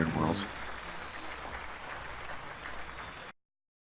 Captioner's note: applauds